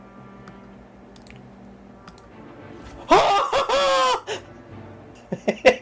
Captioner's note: manic victory laughter